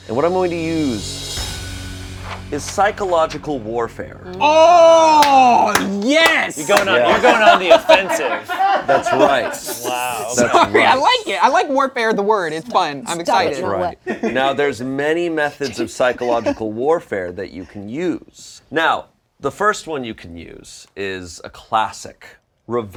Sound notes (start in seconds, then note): 5.1 clapping